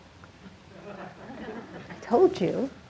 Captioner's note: audience laughing